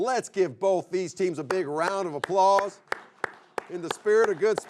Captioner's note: clapping hands